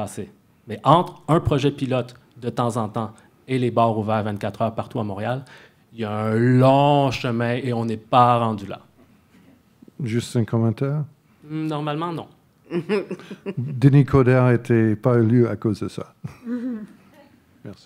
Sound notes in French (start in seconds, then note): 10.8 rires